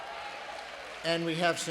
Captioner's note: applause